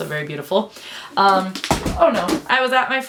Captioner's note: sound of books falling